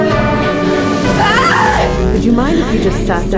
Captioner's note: scary synth music; Abby yelling